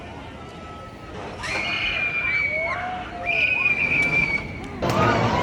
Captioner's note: screams